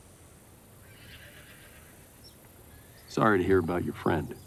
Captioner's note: horse whinnying